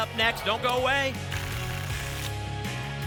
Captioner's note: tickets shuffling